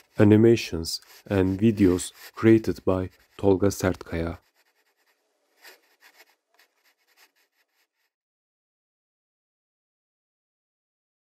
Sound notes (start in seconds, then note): 5.5 the sound of a pencil drawing on paper fades out